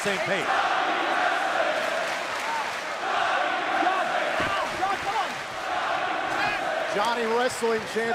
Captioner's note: crowd cheering